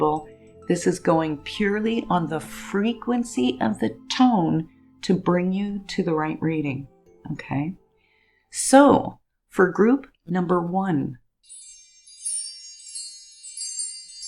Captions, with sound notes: This is going purely on the frequency of the tone to bring you to the right reading. So for group number one, (chimes jingle) And group two (singing bowls ring)